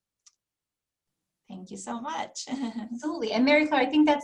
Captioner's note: laughter